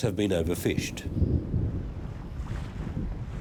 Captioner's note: wind howling